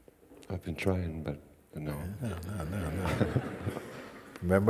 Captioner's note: laughter